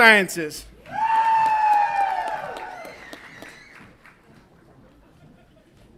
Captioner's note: audience applauds and cheers